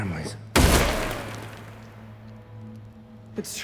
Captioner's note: gunshot fires